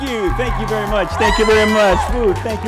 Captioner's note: crowd cheering